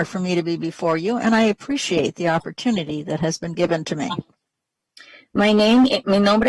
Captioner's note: speaking spanish